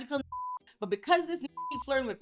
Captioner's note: beep